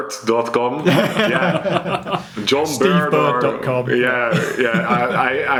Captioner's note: laughs